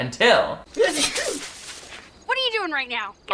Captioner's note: sneezing